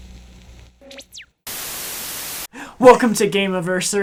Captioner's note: static